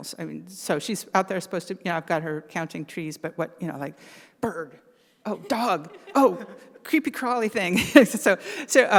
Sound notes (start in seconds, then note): 5.4 all laugh; 8.3 laughs